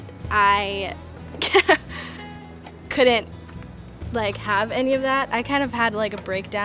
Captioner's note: laughing